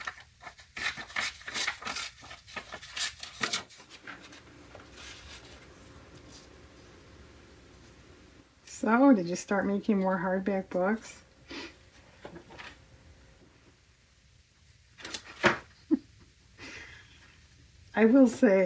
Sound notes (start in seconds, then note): 16.9 laughs